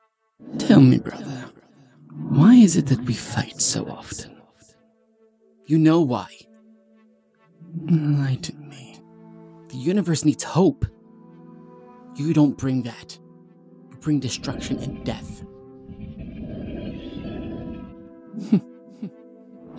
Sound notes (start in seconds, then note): 15.8 unholy monster breathing noises